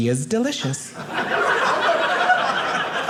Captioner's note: audience laughing